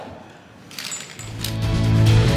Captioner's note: metal rattles; upbeat bright music